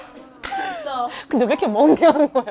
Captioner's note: cracking up